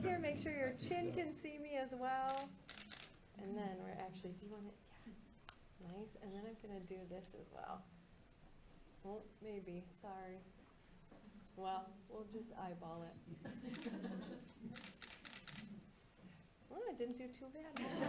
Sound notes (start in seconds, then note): 14.7 camera clicks